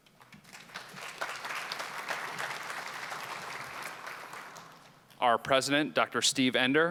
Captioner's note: applause